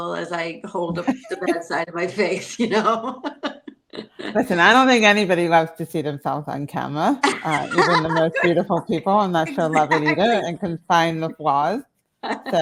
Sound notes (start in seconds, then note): 7.2 laughs